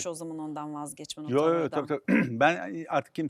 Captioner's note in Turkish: boğazını temizler